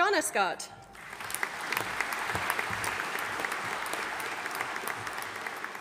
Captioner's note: audience applauding